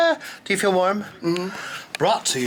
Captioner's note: Sir Brock hums